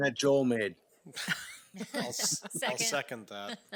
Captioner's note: members laughing